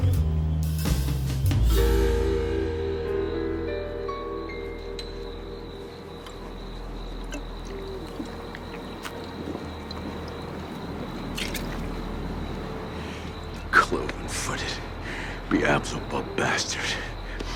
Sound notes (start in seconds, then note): 3.1 crickets chirping